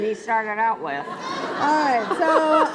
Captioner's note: laughs